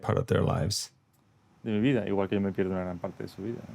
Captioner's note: speaking Spanish